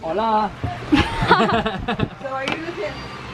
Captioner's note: laughing